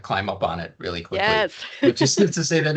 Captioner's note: laughing